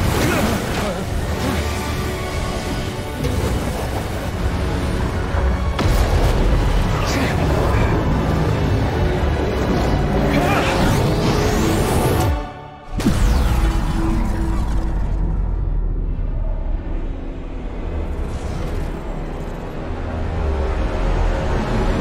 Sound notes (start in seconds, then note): 0.1 ominous music; 12.9 electronic boom; 18.1 ominous music intensifies